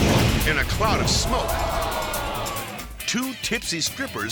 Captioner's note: fire whooshes